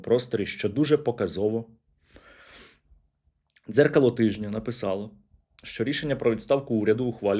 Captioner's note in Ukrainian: сопіння